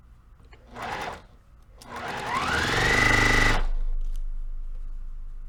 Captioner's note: sewing machine rattling